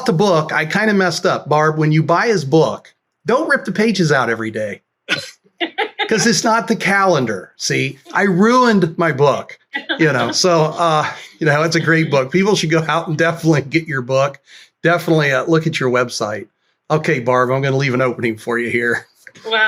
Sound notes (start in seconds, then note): 5.6 laughter